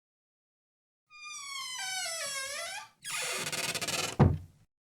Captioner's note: door creaks and closes